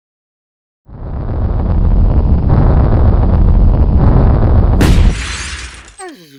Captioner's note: rocket Landing; rocket Crashing